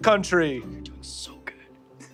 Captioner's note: whispered